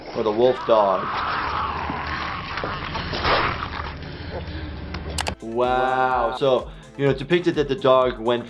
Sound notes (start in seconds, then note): 0.6 flesh tearing; 3.5 heavy breathing